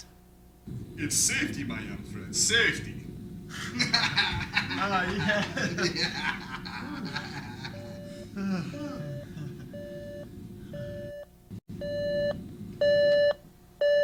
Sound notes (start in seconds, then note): 0.8 in Slavic Accent; 3.6 laughter; 6.1 off-Camera Beeping; 10.1 beeping Grow Louder